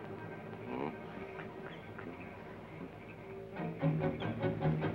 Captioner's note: Joshua hums melodically